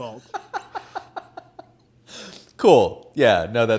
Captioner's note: laughs